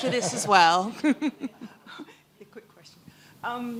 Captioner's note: laughter